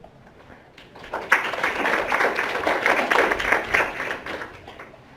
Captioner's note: audience applause